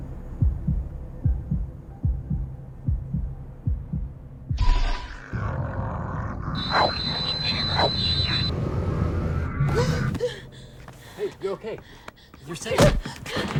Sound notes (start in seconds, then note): 0.3 heart thumping; 9.7 woman gasping and panting